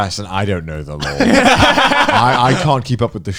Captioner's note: Joey and Garnt laughing